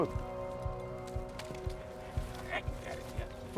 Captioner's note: muttering in German